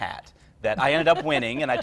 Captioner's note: laughs